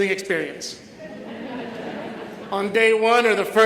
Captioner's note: audience laughs